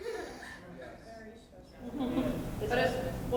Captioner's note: laughter; voiceover